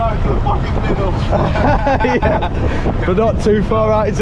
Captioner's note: both laughing